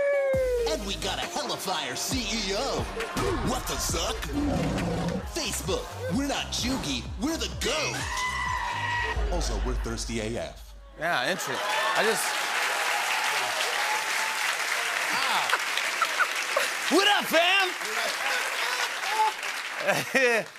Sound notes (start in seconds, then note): 4.3 roars; 10.7 laughter and applause; 11.7 cheering; 17.9 laughter